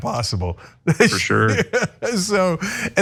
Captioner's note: laugh